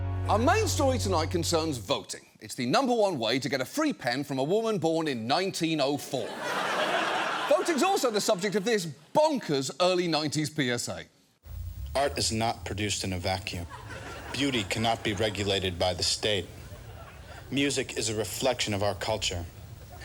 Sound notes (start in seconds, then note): 6.1 studio audience laughing